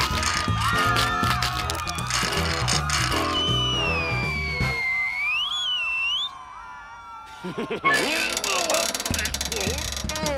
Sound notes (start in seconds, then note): 2.6 long whistle; 7.3 chuckles; 8.2 strained grunts